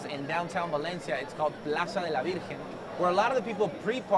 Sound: speaking foreign language

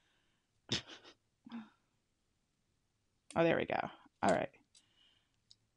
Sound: laughs

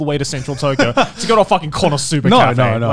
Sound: laughing

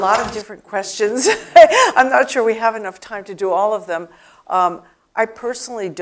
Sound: laugh

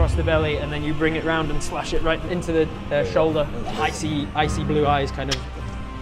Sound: crrk

